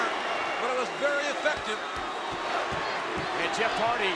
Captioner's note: crowd chanting